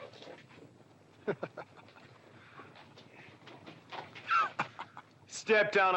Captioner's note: Bunny scoffing